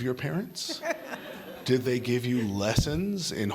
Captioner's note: laughter